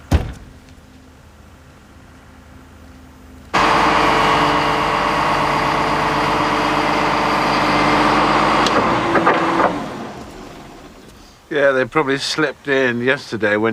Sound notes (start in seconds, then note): 0.0 door closes; 3.5 machine whirs